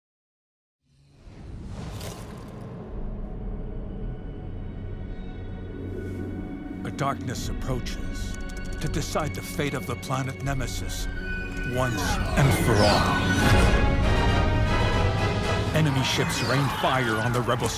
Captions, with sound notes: -A darkness approaches... [typing] ...to decide the fate of the planet Nemesis once and for all... Enemy ships reign fire on the rebel squadron.